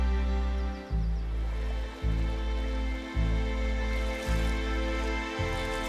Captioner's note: birds chirping; reflective music; water rustling